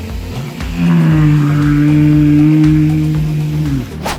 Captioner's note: walrus vocalising